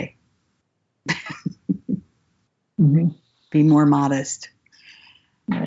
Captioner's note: laughs